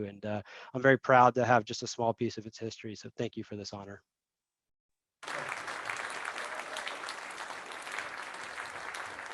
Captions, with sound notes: And I'm very proud to have just a small piece of its history. So thank you for this honor. (crowd applauds)